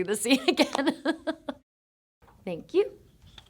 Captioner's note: Shailene laughing